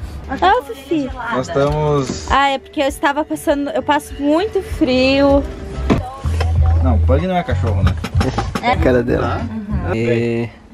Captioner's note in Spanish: Conversaciones varias